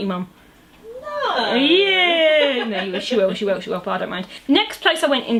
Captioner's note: mum with sarcastic innocence